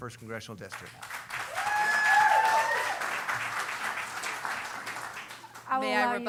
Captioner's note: cheering